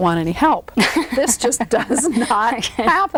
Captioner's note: laughs